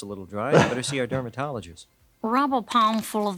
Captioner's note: doctor laughs